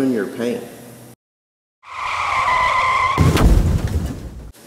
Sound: car screeches

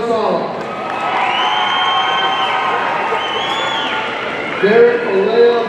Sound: audience cheering

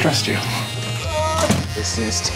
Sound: man yelling

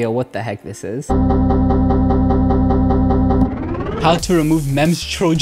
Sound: rhythmic low beeping

